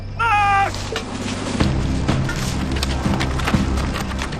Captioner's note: firearms rattle